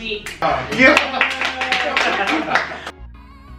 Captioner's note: clapping; upbeat music